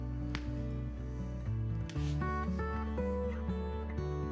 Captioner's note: bill clicks